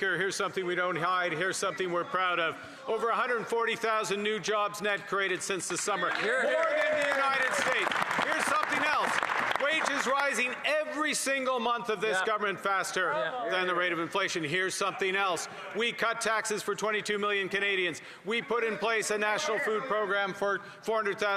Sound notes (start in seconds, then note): 11.1 cheering and Applause